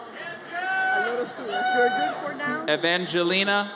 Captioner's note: audience cheers